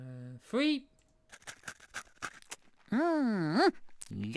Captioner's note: eating sound